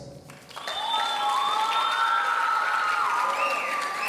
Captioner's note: audience cheering